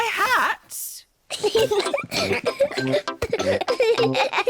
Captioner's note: peppa and george giggle